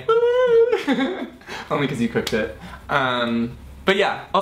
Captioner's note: hoots; laughs